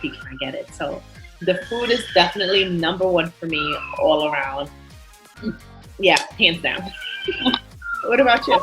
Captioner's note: laughter